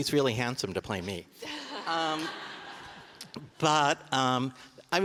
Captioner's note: audience laughing